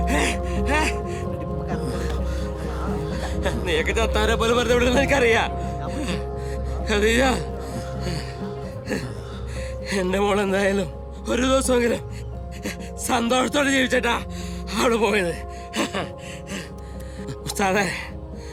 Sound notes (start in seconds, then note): 0.6 indistinct chatter; 7.2 panting